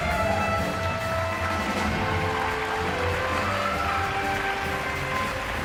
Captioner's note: audience cheering and applauding